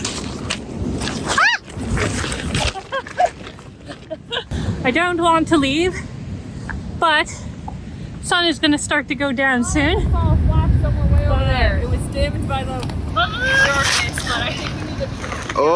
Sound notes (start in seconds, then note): 1.3 screaming